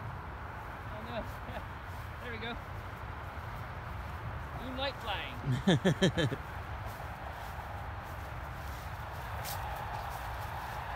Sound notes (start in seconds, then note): 5.4 laughs